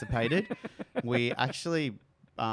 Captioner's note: laughs